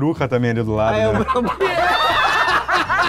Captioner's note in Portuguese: risadas